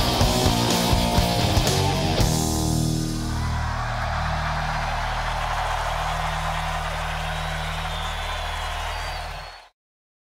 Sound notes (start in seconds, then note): 2.8 audience cheering